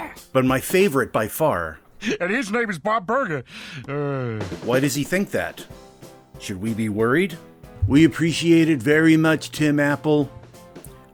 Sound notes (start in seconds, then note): 3.8 amused grunt